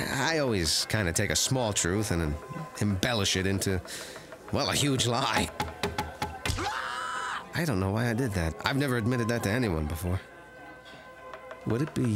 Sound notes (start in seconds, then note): 5.5 knife chopping; 6.5 man squawks